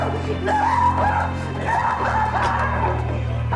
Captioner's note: screaming